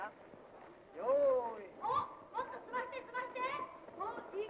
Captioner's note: boys shout teasing and saying "get on with it"